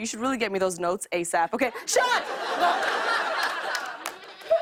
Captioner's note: laughter